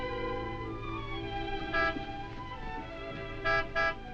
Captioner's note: horn honking